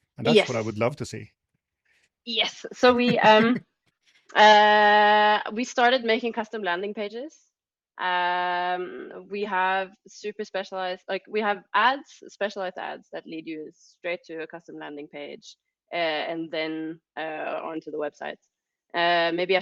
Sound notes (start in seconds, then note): 2.7 laughing